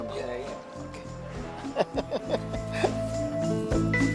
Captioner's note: laughs